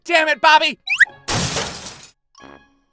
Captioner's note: whew-shattering glass